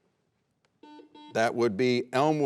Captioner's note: buzzer rings